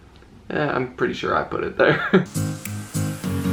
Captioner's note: chuckles